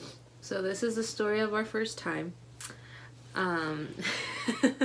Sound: laughs

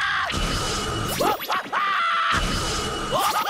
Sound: screaming

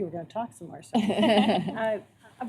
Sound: laughter

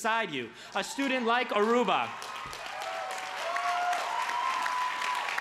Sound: crowd cheers

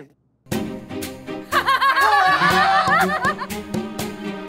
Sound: laughing hysterically

